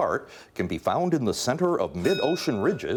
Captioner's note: bell dinging